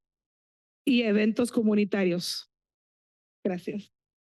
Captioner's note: foreign language